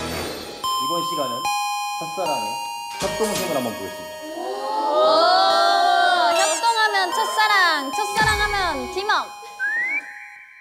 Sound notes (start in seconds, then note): 6.1 confident